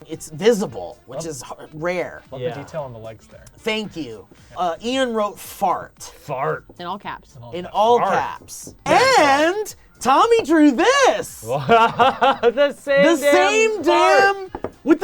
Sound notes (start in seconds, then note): 11.4 laughing